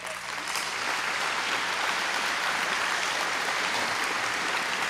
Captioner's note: applause